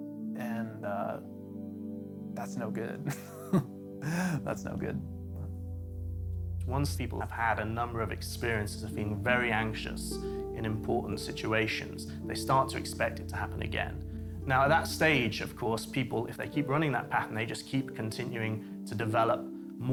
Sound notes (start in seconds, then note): 4.0 laughing